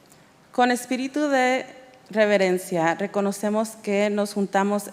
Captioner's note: speaking in Spanish